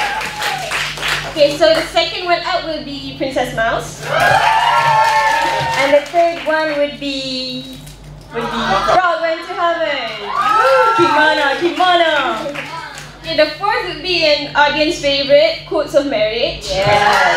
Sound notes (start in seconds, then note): 4.9 applause; 10.0 applause; 17.1 applause